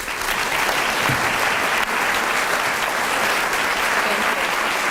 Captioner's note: applause